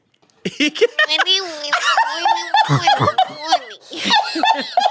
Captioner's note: everyone laughs